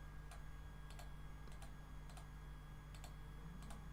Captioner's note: mouse clicking